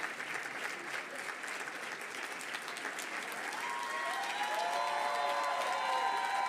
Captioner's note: audience cheering and applauding